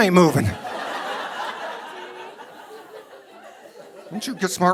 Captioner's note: audience laughing